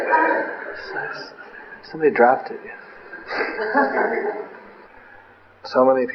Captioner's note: laughter